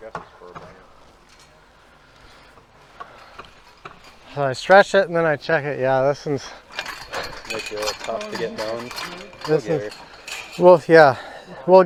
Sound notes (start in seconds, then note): 7.0 mesh clanks